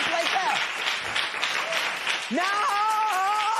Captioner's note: applause